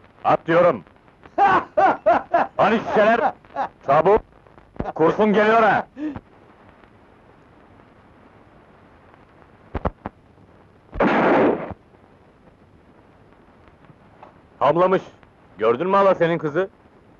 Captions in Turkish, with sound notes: At diyorum! [Kahkahalar] Hani şişeler.. çabuk.. kurşun geliyor ha! [Tüfek sesi] Hamlamış.. gördün mü halasının kızı?